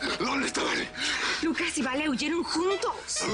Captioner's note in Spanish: Jadeando